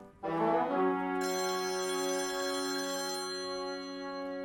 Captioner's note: phone rings